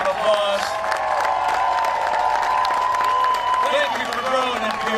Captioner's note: cheering and applause